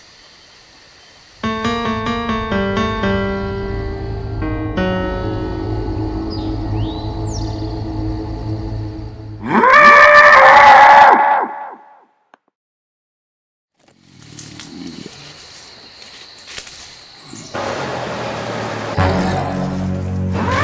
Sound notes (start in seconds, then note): 1.2 insects chittering; 8.6 suspenseful dramatic music